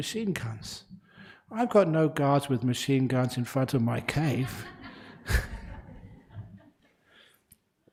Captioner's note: laughter